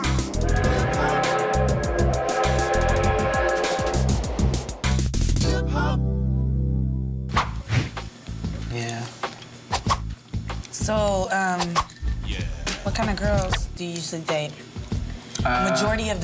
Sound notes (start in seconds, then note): 0.0 train horn